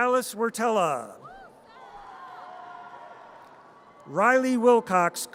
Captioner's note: audience cheers